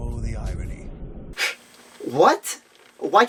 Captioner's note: scoffs